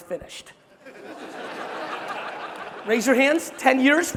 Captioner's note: crowd laughing